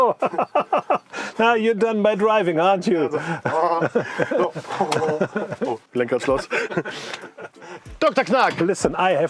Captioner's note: German speaking